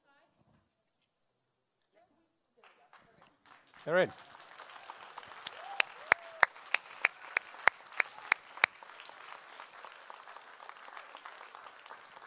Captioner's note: applause